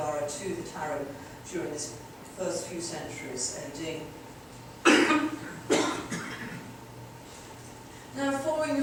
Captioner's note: audience member coughs